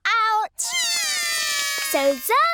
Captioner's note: both cry